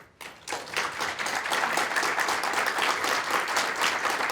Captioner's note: applause